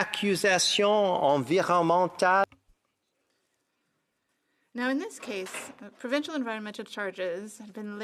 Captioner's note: speaking French